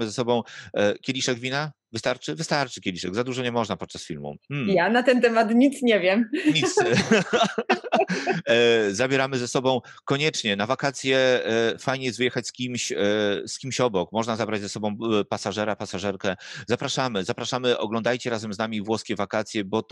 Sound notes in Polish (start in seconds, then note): 6.4 śmiech